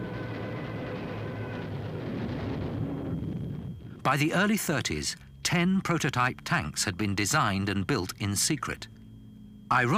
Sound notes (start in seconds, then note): 0.3 plane engines roaring; 1.6 bombs blasting